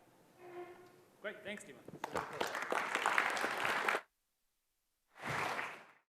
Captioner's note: applause